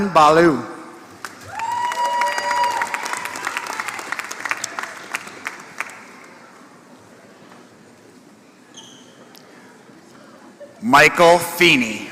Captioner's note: applause